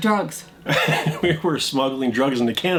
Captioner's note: laughs